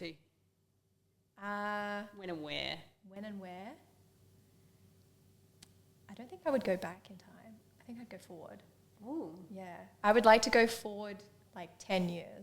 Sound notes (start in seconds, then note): none